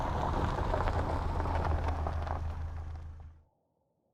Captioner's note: engine rumbling